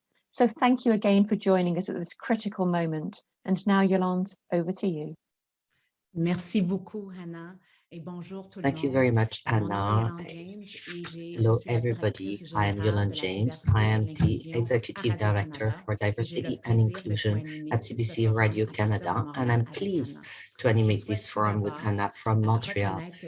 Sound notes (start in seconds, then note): 6.7 speaks French